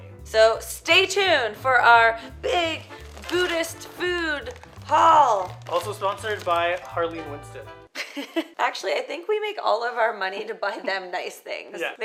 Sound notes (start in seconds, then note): 4.4 playful music; 8.0 chuckles